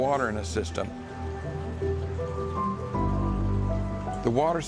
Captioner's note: water flowing